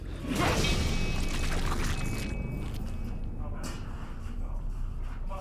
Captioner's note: liquid splatters